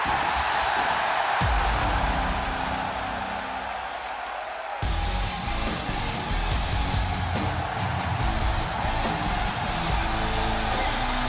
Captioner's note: crowd cheering